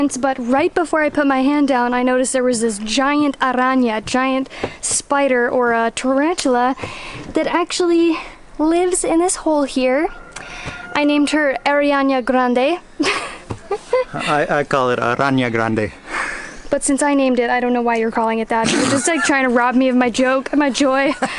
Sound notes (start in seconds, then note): 13.0 laughs